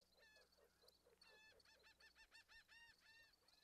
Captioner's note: birds chirping